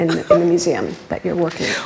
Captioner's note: laughs